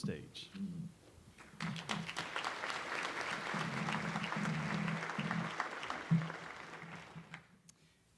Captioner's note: applause